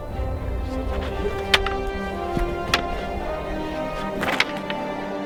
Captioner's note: wooden swords clap